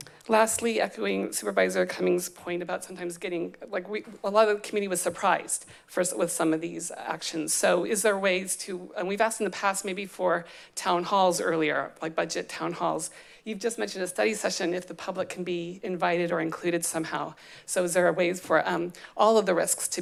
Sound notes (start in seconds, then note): none